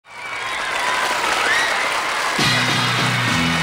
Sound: audience cheering; upbeat music

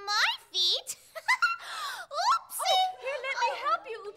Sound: giggling

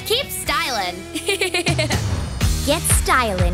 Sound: laughing

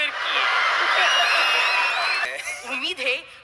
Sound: crowd cheering

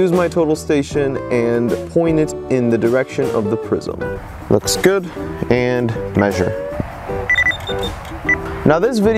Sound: sound effects

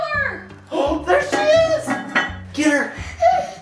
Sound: gasps

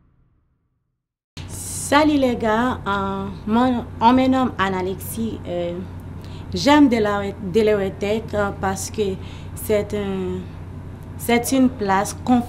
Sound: in French/ Haitian Creole

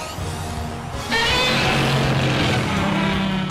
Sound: roars

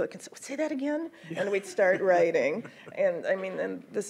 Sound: laughs

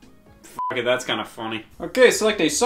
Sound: beep

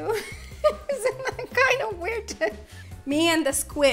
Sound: laughs

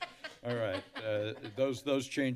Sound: laughter

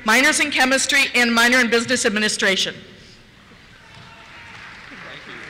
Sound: cheers

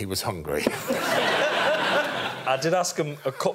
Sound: laughs

